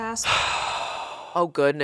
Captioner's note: sighing